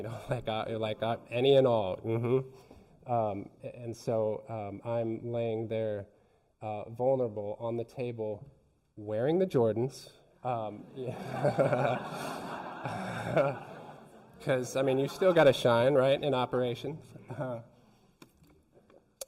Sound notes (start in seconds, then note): 10.8 laughter